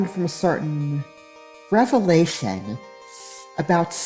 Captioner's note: pained inhale thru fangs